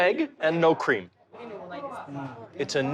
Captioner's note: speaking Japanese